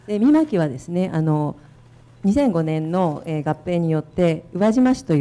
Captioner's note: speaking foreign language